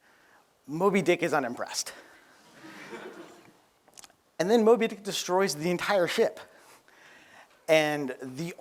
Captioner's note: laughter